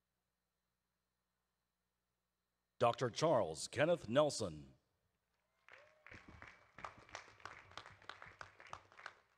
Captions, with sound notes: Dr. Charles Kenneth Nelson, (audience claps)